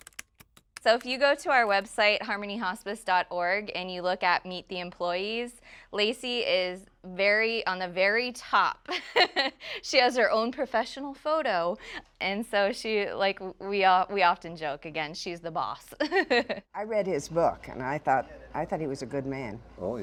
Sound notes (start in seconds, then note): 8.9 laughs; 16.0 laughs